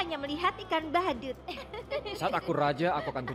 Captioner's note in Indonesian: keduanya tertawa